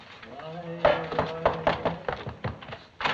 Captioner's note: knock at door